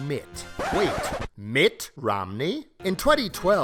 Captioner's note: record scratches